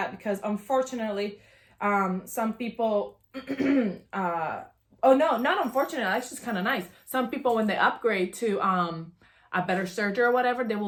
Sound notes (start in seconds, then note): 3.3 coughs